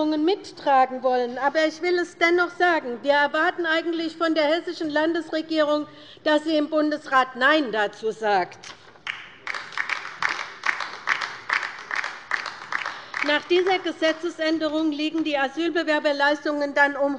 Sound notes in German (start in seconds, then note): 9.0 Beifall bei der LINKEN